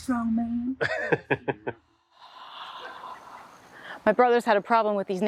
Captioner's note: laughing